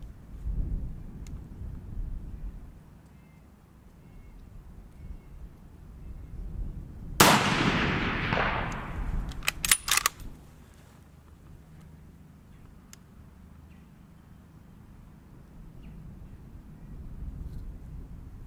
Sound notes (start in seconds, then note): 7.2 gun fires; 9.3 gun cocks